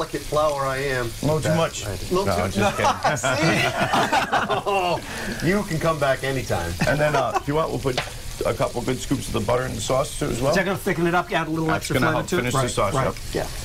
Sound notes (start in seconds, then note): 2.6 laughter; 8.4 laughter